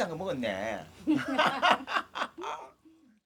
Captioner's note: both laughing